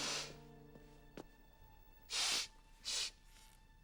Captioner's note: sniffling